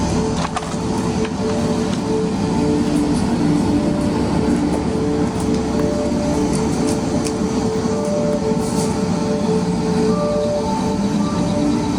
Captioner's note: background: river water flowing